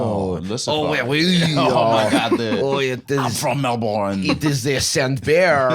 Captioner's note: both doing French accents